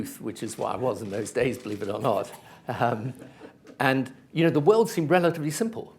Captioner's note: laughter